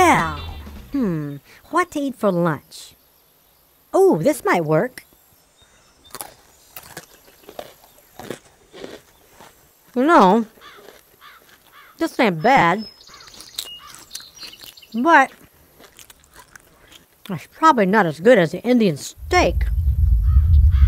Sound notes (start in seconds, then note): 10.1 chew